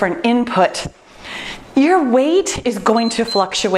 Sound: timer beeps

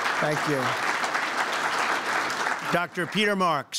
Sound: applause

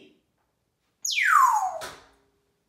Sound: whistling

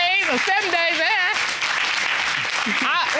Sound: audience applauding

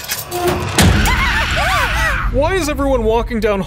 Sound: door creaking; everyone screaming

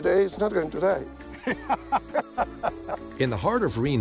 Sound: laughter

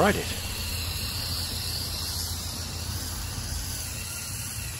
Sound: mowing sound intensifies

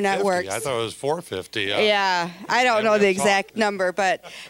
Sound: audience laughing

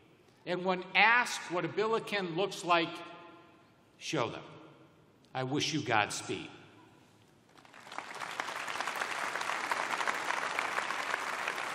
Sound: applause

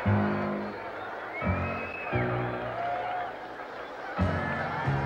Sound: applause

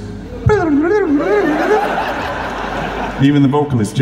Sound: crown laughing

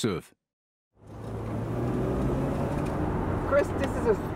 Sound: truck roar

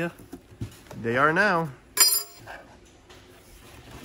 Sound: knife clangs

